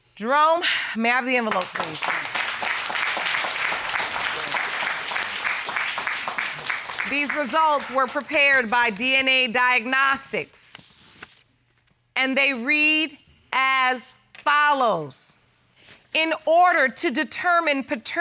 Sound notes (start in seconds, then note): 1.2 audience applauding